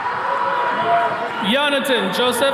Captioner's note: attendees cheering